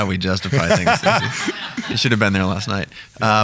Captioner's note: laughing